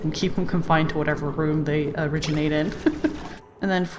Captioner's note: laughs